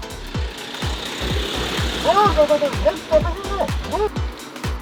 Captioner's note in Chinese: 在水下说话